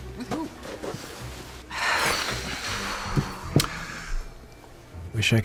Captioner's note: sighs heavily